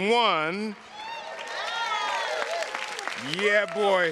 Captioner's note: audience applauding